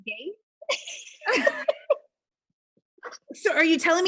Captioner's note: laughing